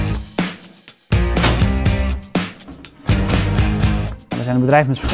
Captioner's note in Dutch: slaggeluid